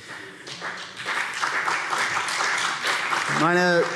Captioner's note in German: Beifall CDU und BÜNDNIS 90/DIE GRÜNEN